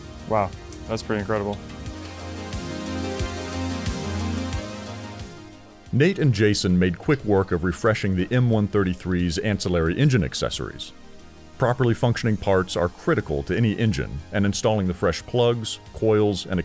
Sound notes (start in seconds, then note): 2.1 energetic music; 6.0 voiceover